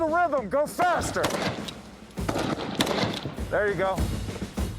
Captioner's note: gun firing